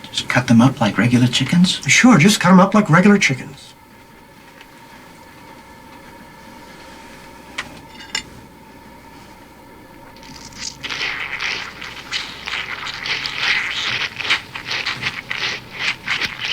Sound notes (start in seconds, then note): 10.7 chicken squelches